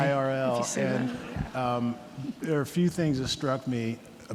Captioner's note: audience laughing